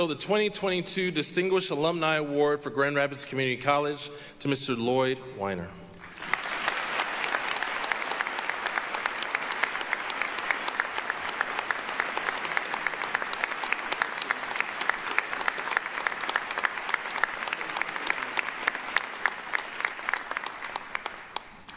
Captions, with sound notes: the 2022 Distinguished Alumni Award for Grand Rapids Community College to Mr. Loyd Winer. (applause)